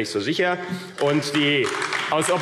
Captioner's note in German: Beifall AfD